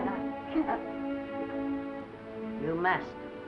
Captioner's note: sobs